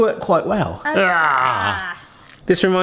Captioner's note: both groan